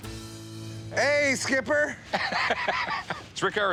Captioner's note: chuckling